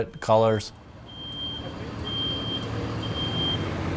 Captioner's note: truck beeping